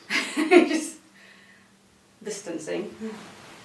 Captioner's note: chuckles; laughs